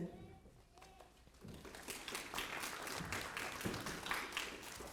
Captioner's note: applause